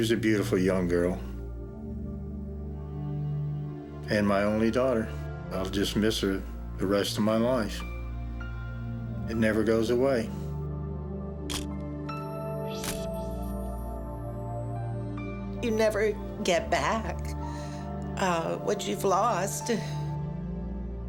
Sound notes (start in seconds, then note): 11.4 camera shutter click